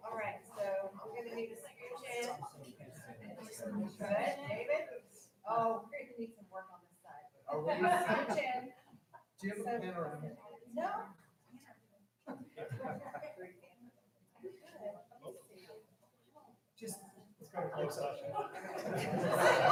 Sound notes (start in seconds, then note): 12.4 people chattering; 18.3 all laughing